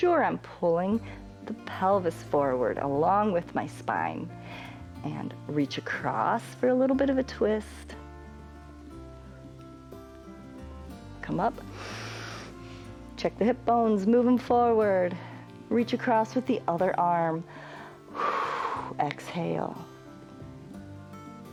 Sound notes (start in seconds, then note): 11.6 inhales; 17.4 exhales